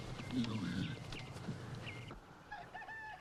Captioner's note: Hezekiah muttering; rooster crowing